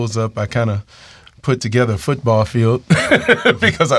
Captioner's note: laughs